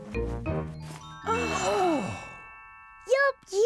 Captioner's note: all gasp